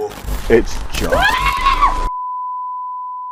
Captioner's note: screaming